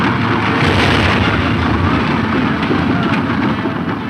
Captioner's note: loud explosion